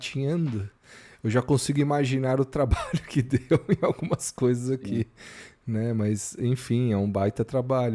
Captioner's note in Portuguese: risadas